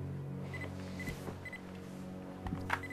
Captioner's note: beeping